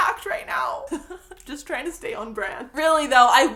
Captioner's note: laugh